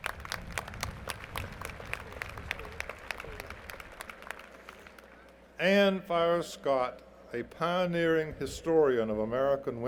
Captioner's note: applause